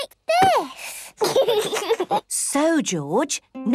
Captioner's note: giggles